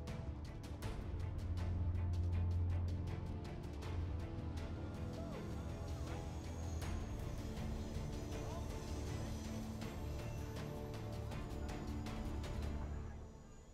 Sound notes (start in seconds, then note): 5.0 background chattering; 8.2 train whirring